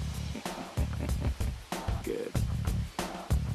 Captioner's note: chuckles